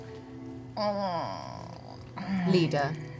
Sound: groans

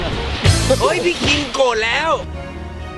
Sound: laughs; tense music playing

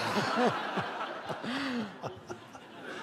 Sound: laughter

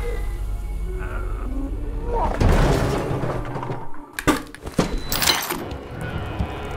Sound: cat yowling; cans clattering; man grunting

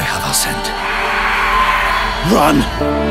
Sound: mosters roar

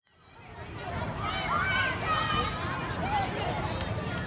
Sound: children playing

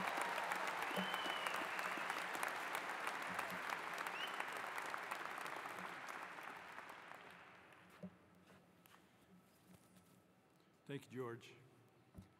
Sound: applause

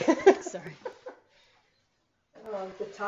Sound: laughing

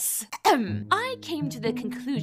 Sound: clears throat

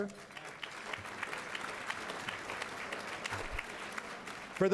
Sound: applause

